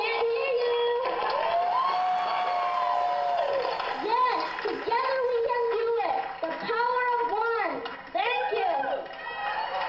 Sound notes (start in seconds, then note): 1.0 cheering; 9.2 applause